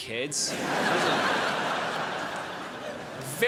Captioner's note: crowd laughs